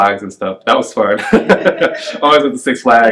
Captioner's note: laughs